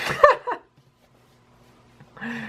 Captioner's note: laughing